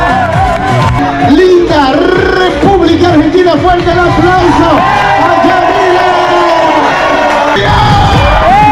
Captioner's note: A round of applause to all the staff!